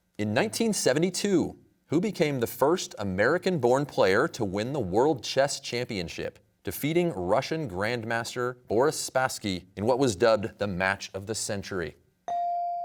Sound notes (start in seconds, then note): none